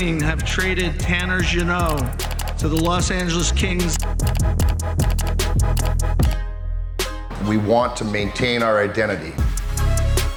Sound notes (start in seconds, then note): 4.2 mouse clicking; 10.1 upbeat music